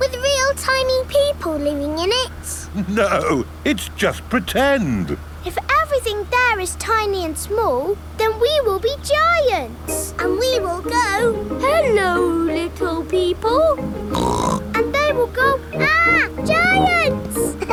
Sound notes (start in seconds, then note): 14.0 snorts